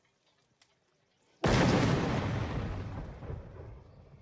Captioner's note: explosions